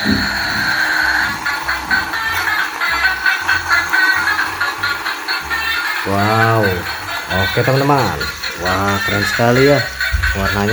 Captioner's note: laughs